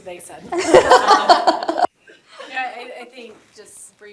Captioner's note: laughter